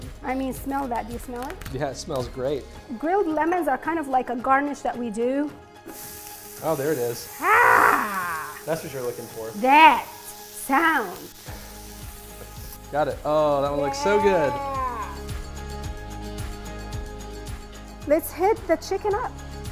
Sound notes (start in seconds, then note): 5.8 pan sizzles; 7.4 groans; 15.0 upbeat music